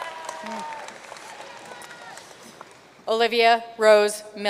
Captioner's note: audience cheering and applauding